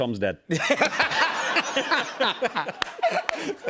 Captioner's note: laughter